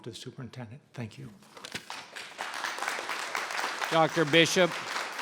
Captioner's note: audience applauds